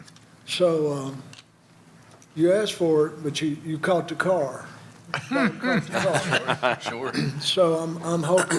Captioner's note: laughter